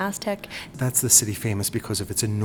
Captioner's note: voiceover